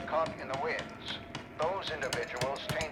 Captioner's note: vigorous hammering